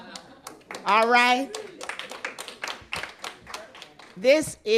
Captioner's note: applause